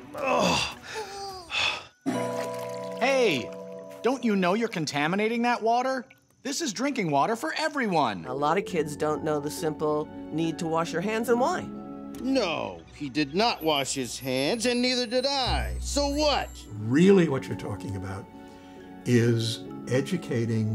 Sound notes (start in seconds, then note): 0.1 grunts; 0.4 breathing hard; 3.8 gong rings; 8.7 light orchestral music